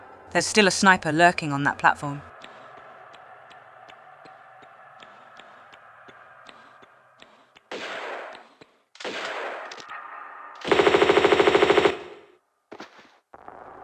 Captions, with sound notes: There's still a sniper lurking on that platform. *BAM BAM* *BRATATATATATA*